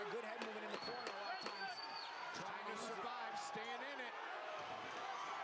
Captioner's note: cheering